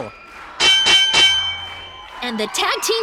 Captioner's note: bell rings